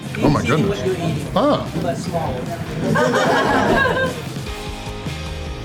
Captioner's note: crowd laughter